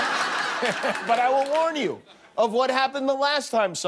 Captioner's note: laughter